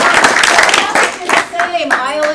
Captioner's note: applause